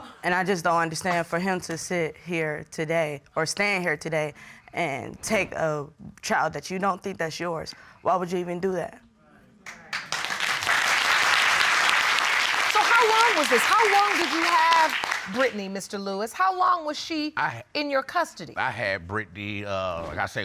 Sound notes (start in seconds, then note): 9.7 audience applauding